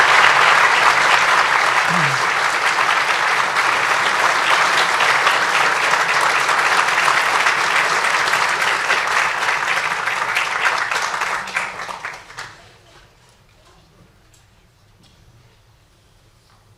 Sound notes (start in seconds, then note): 8.1 applause